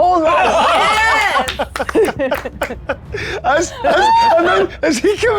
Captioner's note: players laughing